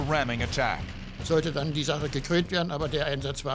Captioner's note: speaking german